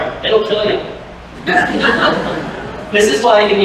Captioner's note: laughter